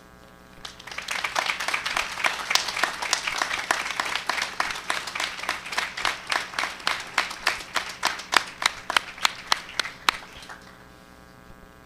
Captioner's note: applause